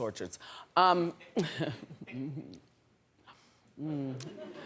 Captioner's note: laughing